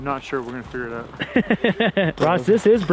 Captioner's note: laughs